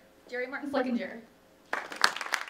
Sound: applause

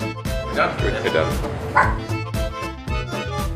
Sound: dog barks in agreement

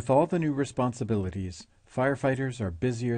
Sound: voiceover

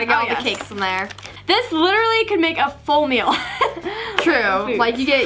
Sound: laughs

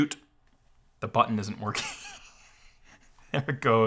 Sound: laughs

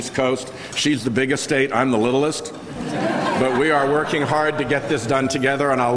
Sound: laughter

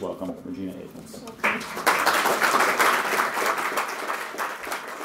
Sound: applause

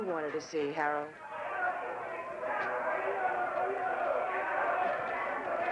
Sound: muffled crowd yelling

